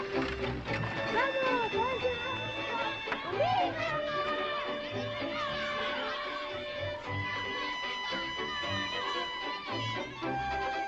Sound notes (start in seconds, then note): 3.4 children chattering